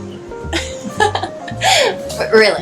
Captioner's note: laughing